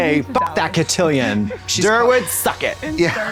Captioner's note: beep